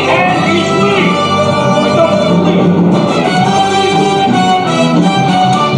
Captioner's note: grumbles